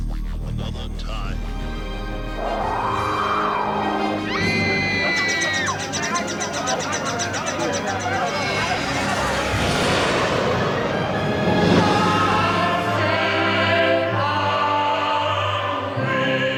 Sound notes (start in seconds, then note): 2.8 wind howling; 4.0 screaming; 5.7 people clamoring